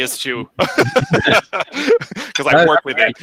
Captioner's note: laughs